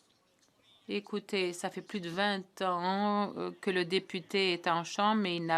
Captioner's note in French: voix de l'interprète